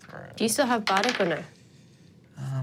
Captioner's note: dice rolling